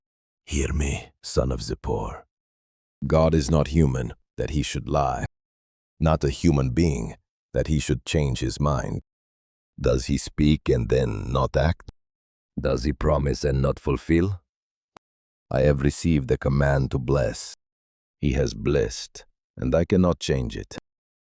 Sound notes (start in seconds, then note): 0.2 whispering; 9.3 thoughtful; 12.1 questioning